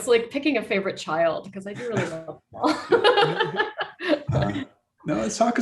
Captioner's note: laughs